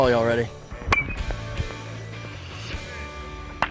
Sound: hits ball

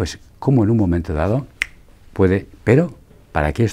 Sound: snaps fingers

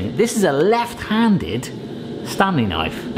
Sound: none

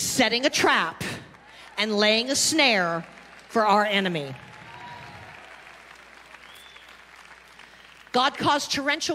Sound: congregation clapping

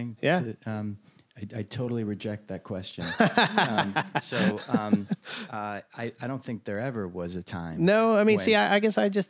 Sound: laughter

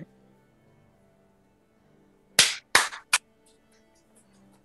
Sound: clapping

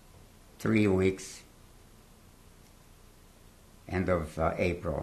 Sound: pauses for 3 seconds

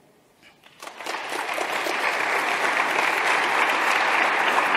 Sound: audience clapping

